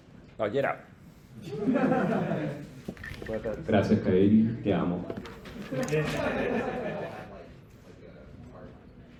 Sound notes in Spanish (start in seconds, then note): 1.4 Risas